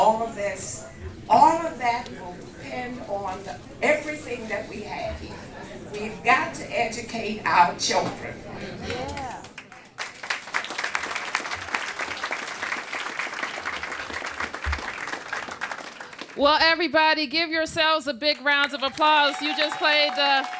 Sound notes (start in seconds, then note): 12.3 applause